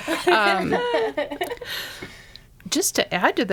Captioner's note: laughing